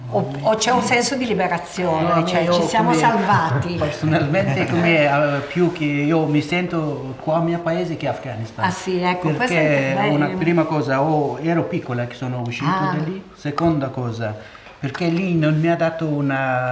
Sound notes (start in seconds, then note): 4.0 chatter